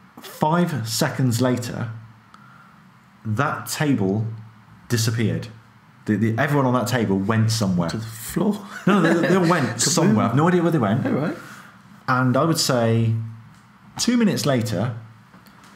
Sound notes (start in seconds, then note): 8.7 laughing